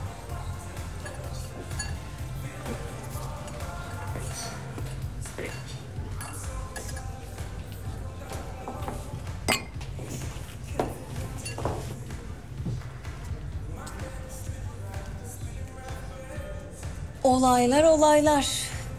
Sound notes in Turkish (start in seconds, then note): 0.0 Ortam Sesi; 9.4 Bardağını Tokuşturuyor; 10.1 Ortam Sesi